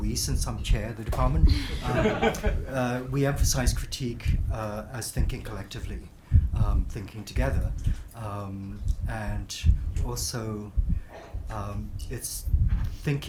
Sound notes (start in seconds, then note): 1.5 group laughs